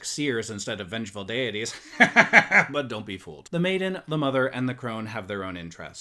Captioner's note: laughs